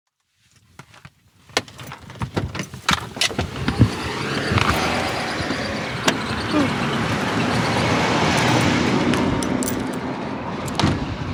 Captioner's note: soundbite of cars passing